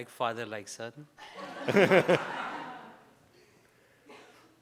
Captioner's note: audience laughs